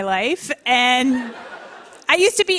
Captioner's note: laughter